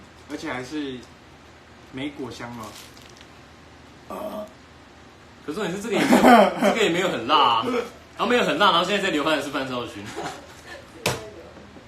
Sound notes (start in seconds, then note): 4.1 burps